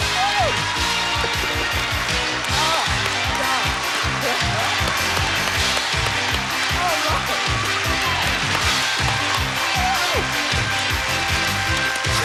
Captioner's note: aH@udiencH@e applH@auding